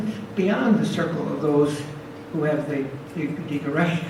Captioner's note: speaks foreign language